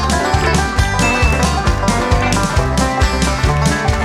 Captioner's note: upbeat music continues; bell dings